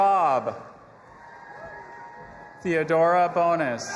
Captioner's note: audience applauding and cheering